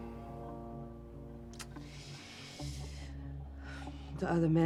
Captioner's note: inhales